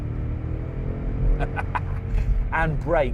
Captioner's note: laughs